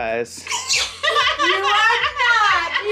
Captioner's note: family laughing